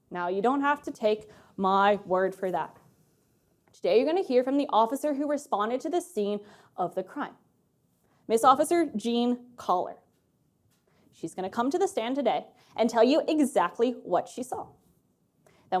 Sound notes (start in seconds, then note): none